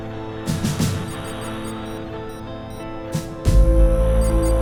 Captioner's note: beeping